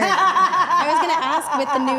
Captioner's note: laughing